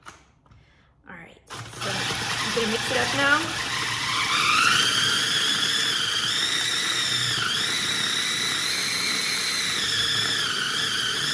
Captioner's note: food processor sound